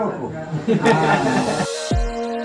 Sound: laughs

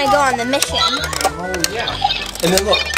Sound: control tower beeping

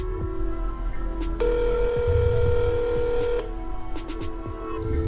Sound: phone ringing

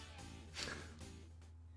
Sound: chuckles

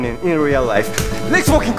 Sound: clap

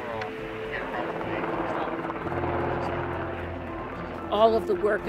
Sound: plane engine roaring

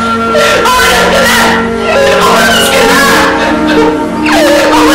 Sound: cries

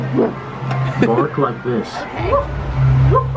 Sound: laughs

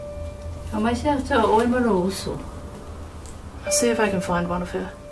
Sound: speaking in Samoan

